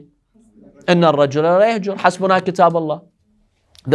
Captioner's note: Arabic